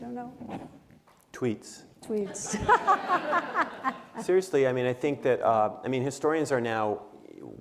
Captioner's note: laughter